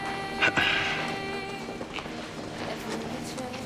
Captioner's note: clears throat